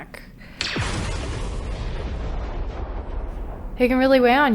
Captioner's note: explosion